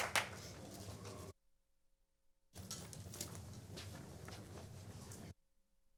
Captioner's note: applause